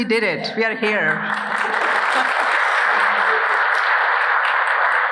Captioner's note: audience applauding